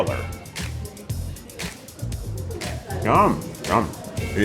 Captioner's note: people chattering; upbeat music